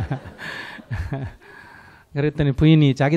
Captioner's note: /Audience laughter